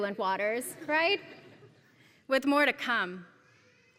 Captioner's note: laugh